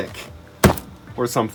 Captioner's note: thud